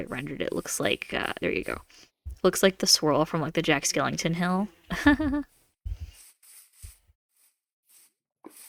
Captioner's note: hahaha laugh